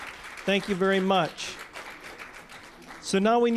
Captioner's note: applause